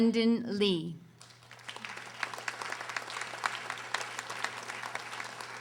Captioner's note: audience applauding